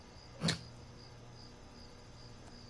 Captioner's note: GUARD snorts derisively